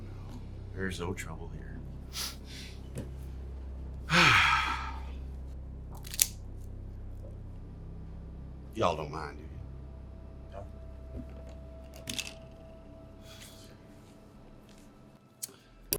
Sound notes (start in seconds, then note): 4.1 person sighing